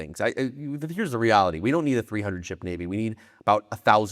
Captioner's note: none